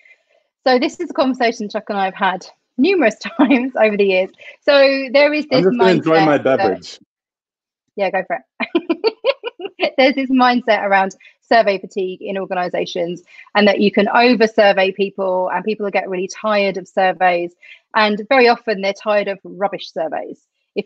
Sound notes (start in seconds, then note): 8.6 laughs